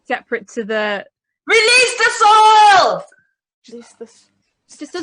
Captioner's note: shouts